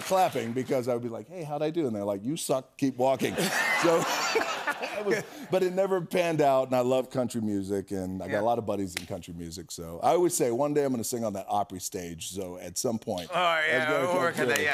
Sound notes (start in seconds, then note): 3.2 laughter